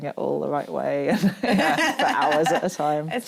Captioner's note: laughs